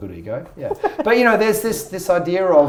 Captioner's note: laughs